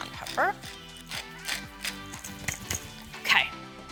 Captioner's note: pepper sprinkling